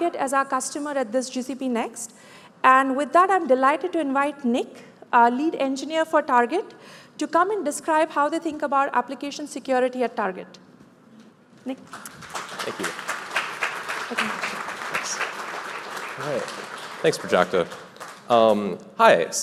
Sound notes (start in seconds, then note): 11.9 applause